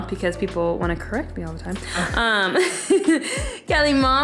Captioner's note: laughing